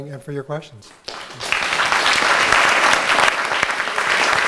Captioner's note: applause